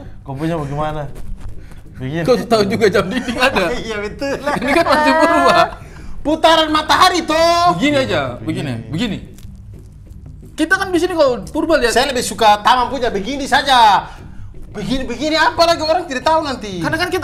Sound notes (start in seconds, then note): 5.9 laughing